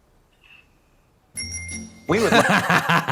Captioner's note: bell rings